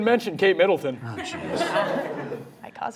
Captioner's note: audience laughing